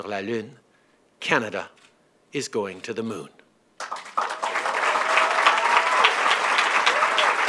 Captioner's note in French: Acclamations et applaudissements